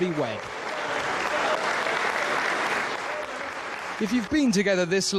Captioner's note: audience applauds